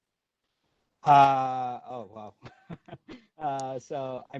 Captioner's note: laughter